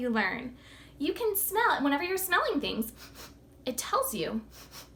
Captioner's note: sniffs